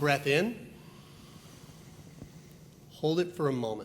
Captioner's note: all inhale